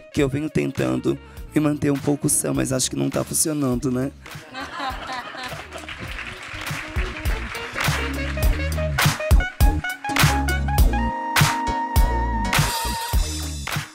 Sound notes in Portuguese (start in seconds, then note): 4.4 risadas; 5.8 aplausos